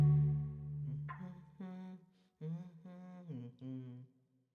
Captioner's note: humming